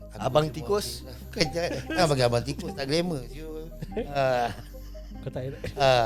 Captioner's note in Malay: ketawa